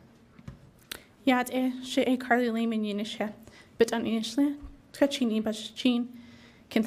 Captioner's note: speaking in foreign language